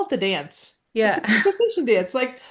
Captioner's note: laughs